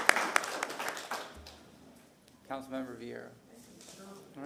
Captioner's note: applause